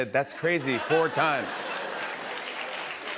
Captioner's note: laughter